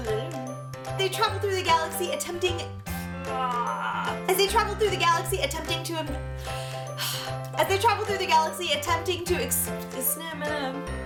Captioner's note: sigh